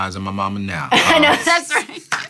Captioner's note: laughs